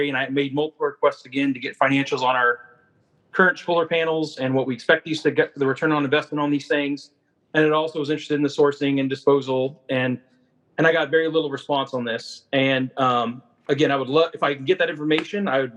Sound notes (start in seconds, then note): none